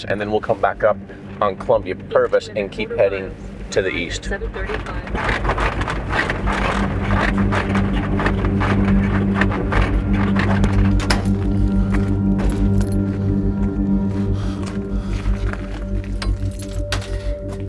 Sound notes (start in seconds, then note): 4.3 electronic Voice; 5.4 vehicle rattling; 7.3 suspenseful music; 14.2 gravel squishing